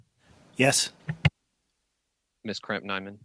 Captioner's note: speaking French